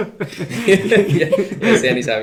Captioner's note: laughing